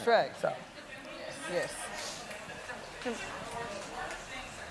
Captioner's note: murmuring